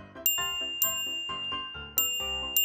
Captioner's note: ting!